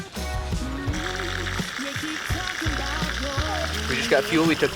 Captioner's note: liquid rushing loudly